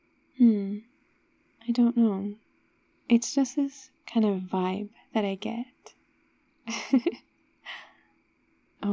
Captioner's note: laughs